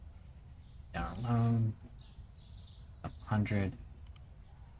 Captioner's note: mumbling to self